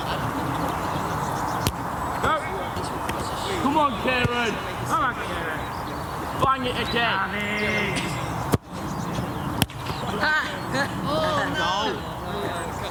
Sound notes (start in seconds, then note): 10.7 laughter